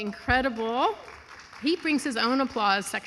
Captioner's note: audience applauding and cheering